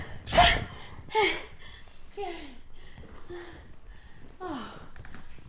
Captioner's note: Maisie gasping